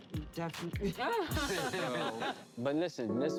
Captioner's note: people laughing